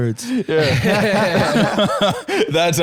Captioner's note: all laughing